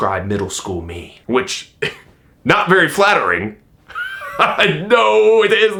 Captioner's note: laughing